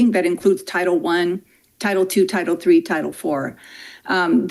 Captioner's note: none